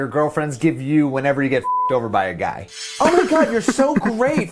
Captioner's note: beep